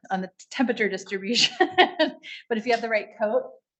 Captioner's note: laughs